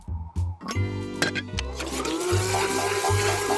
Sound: blender whirring

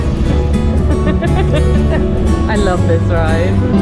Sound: singing; gentle upbeat music; laughing

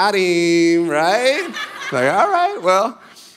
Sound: congregation laughing

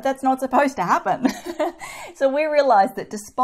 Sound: laughing

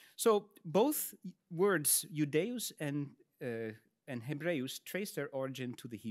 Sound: speaks in Latin

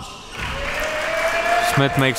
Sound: cheering

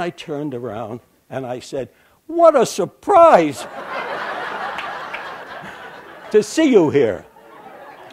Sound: laughter

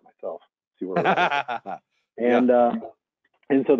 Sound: laughing

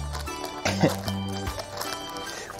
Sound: laughs

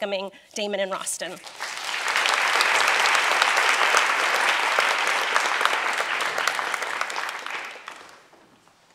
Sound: applause

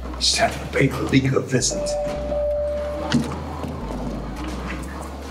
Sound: elevator dings

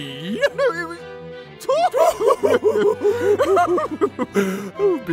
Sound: snooty laughter

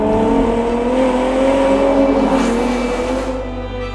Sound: engine revving

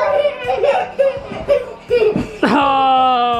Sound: laughing

